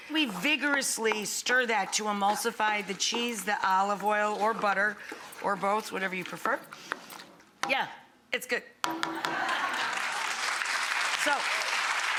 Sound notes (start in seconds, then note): 9.3 audience laughing; 9.4 audience clapping